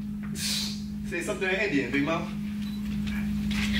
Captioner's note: sighs